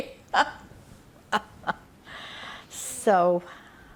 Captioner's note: laughing